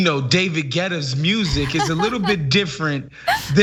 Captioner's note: laugh